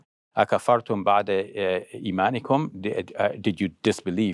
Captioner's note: speaking foreign language